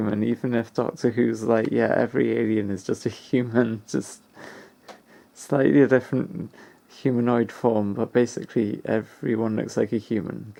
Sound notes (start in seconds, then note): none